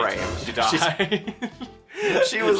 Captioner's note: laughing